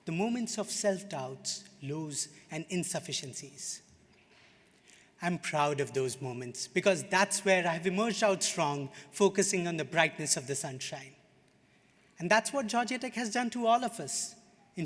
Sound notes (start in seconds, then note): none